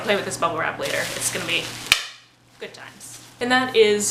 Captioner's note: pop